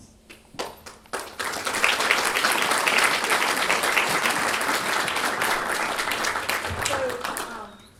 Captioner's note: applause